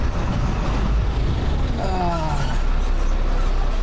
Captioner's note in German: Stöhnen